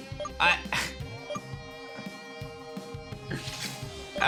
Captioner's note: giggles